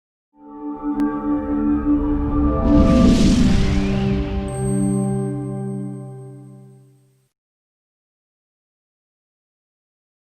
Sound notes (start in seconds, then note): 0.4 gentle music; 0.6 graphics whooshing